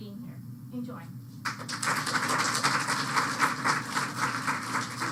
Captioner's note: applause